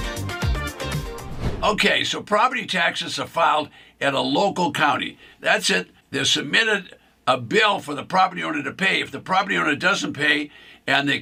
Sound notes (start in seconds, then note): 1.1 whooshing